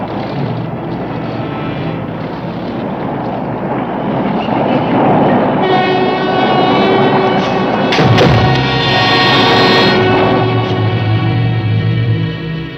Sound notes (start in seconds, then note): 2.6 train chugging; 4.5 horn blaring; 5.7 thudding